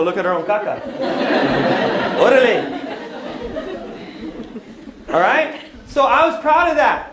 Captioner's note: non-english speech